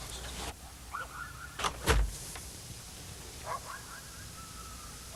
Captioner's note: dogs yelping